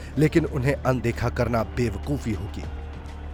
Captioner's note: yelling